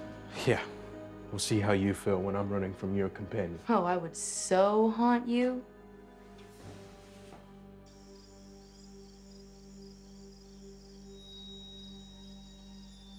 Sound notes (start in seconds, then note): none